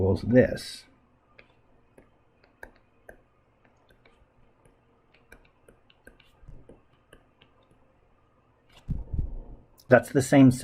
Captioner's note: writing Sounds